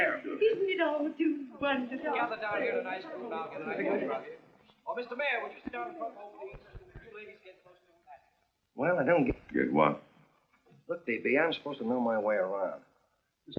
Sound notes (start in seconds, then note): 2.0 chattering